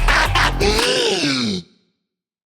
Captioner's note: gasp